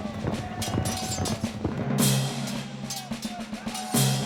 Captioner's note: horses running; swords clashing